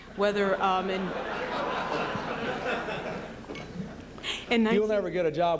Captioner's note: laughter